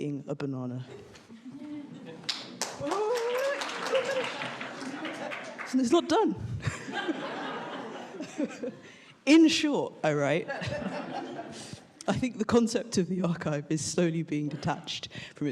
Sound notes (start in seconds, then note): 2.2 applause; 8.1 laughs